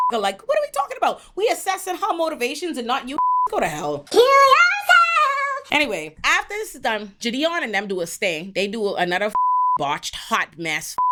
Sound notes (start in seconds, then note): 3.1 beep; 9.3 beep